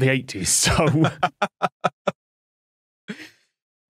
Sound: laughs

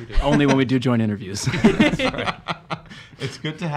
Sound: laughing

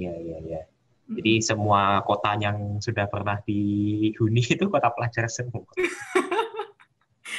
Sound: chuckles

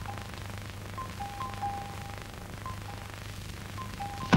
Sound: door Bell

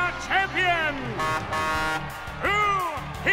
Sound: truck horn

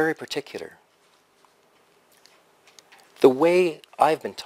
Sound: pause

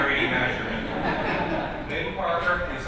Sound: laughter

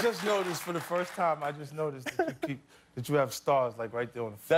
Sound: cheers and applause

